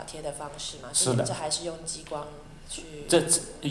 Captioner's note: Mandarin